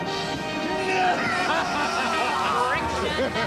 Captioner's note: evil laughter